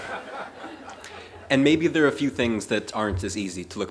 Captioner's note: laughter